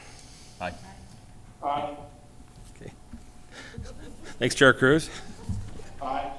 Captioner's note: chorus of ayes